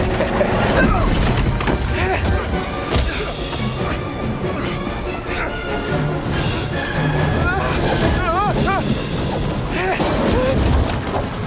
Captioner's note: in German; chuckles